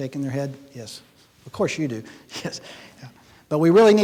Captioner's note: chuckles